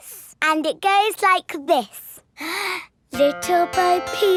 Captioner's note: inhales